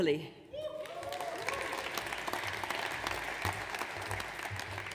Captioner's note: audience applauds